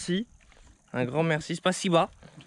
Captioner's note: Russian